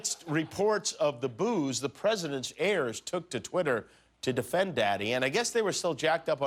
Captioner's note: laughter